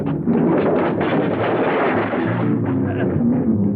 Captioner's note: clattering